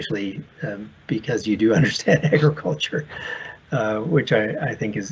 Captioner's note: chuckles